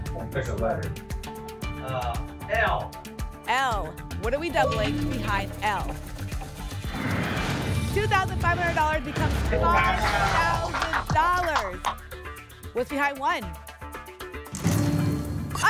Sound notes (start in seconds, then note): 6.8 whoosh; 11.2 applause